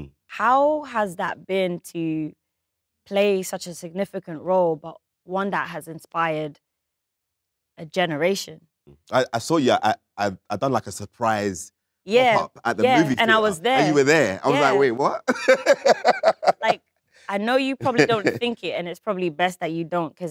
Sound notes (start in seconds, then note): 16.2 laughs